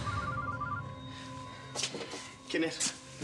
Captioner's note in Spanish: suena el teléfono